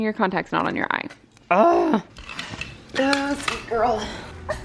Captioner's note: groans